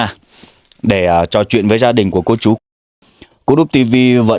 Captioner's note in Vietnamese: khịt mũi